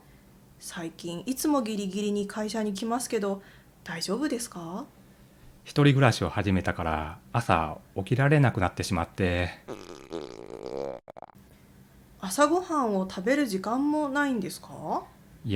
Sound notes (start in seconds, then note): 9.6 stomach growling